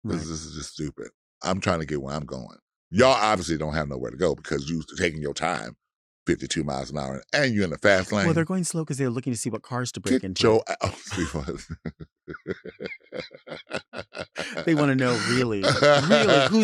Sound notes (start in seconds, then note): 12.3 laughing